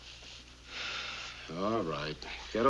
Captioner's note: sighs